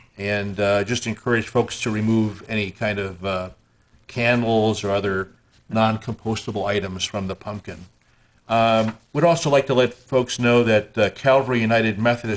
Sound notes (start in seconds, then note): none